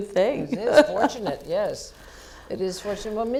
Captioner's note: laugh